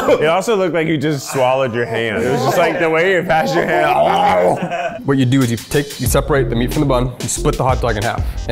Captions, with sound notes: - It also looked like you just swallowed your hand. It was like, the way you passed your- (mimics guzzling food) - What you'd do is you take, you separate the meat from the bun and split the hot dog in half,